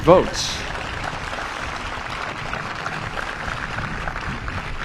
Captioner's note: applause